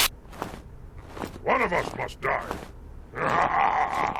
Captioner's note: chuckles